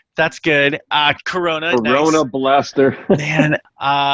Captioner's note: laughs